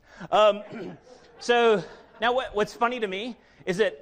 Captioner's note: audience laughs